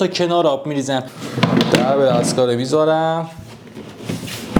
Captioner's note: door